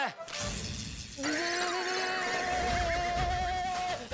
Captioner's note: screaming